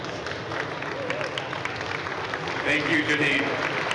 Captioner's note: crowd applauding